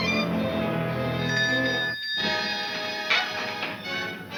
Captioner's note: bell ringing